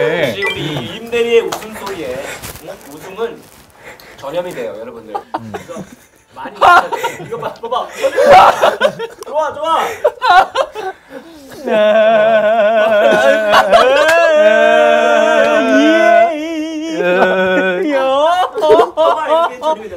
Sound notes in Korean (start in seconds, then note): 5.1 웃음 전염